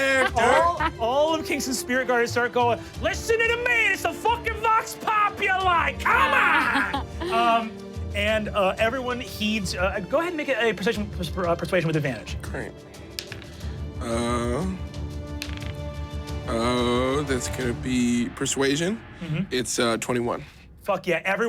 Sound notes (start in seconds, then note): 0.0 laughing; 6.6 everyone chuckles; 13.1 dice rolling